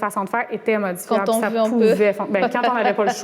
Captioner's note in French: rire